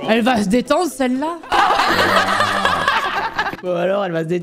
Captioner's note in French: rires